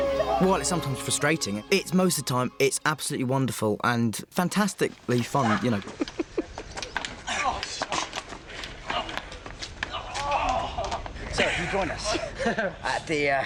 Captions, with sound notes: Well, it's sometimes frustrating. Most of time, it's absolutely wonderful... ...and fantastically fun, you know. [BOTH LAUGHING] -So you joined us at the-- -Ha, ha.